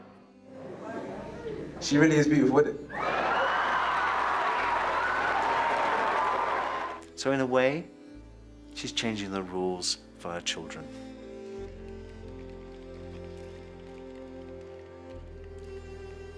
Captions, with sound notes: She really is beautiful, isn't she? (crowd cheers) So in a way, she's changing the rules for her children. (dramatic music)